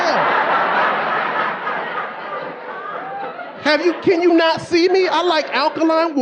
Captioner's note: audience laughing